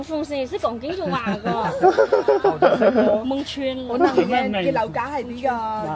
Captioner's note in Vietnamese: Tiếng cười